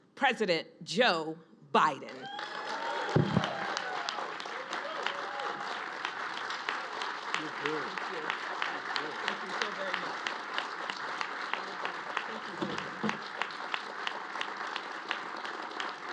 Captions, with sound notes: President Joe Biden. (Applause.)